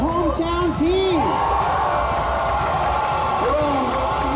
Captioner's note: cheers and applause